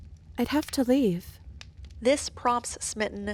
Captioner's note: none